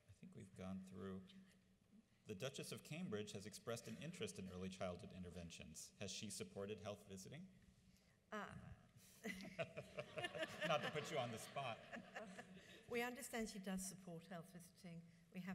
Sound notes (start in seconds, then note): 9.5 audience laughs